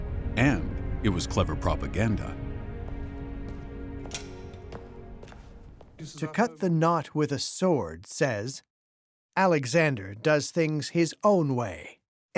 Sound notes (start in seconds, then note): 6.1 in German